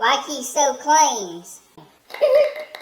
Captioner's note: applause